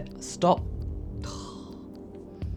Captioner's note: sighs